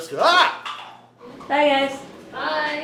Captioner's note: laughs